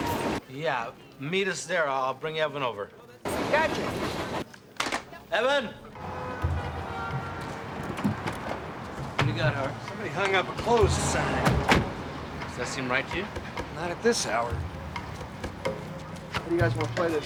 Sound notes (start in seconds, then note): none